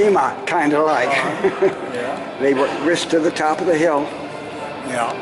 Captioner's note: laughter